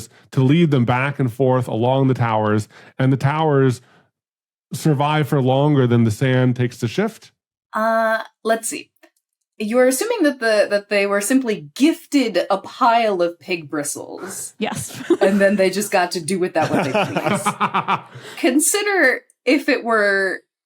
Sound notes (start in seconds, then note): 16.5 guessers laughing